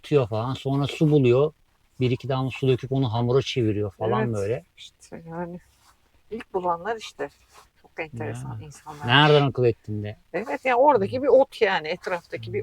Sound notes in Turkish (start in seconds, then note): 7.2 homurdanır